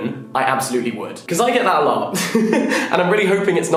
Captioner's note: laughing